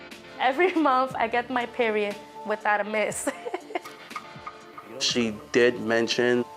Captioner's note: laughs